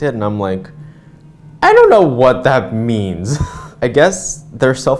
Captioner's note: laugh